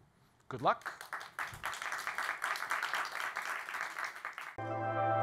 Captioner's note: applause